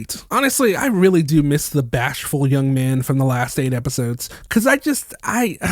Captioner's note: sigh